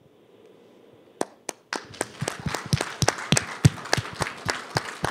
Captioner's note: applause